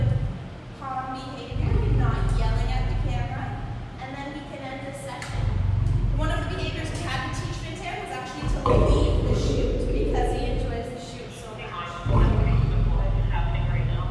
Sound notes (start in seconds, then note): 12.0 lion growl